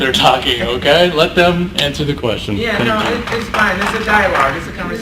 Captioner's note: a few people clap